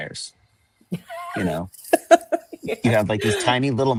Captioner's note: laughs